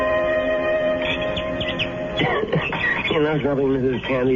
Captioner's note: coughing